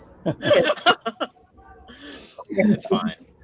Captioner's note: laughing